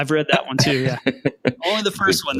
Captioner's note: laughing